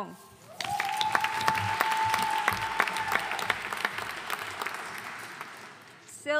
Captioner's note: audience cheering and applauding